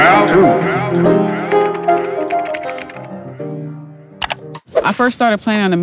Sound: keyboard clicking

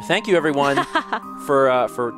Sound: laughs

